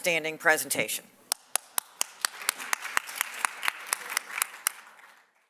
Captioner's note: audience applauds